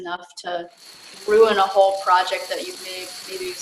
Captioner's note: dominoes falling